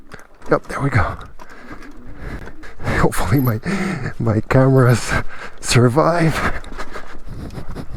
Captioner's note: giggle